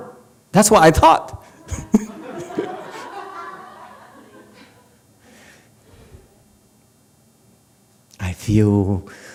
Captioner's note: laughs, audience laughs